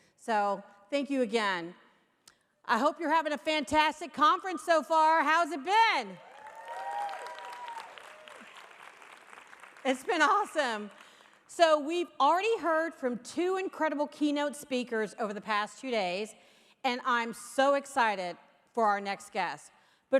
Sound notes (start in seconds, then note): 6.2 audience cheering; 6.2 audience applauding